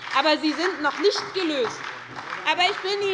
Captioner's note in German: Beifall bei der SPD